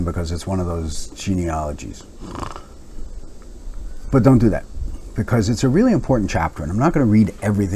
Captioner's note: snore